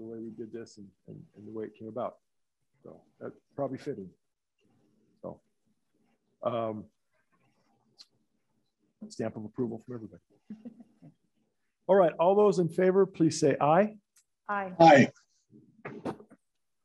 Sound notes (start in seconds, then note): 10.5 laughter